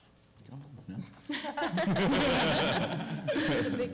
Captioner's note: laughter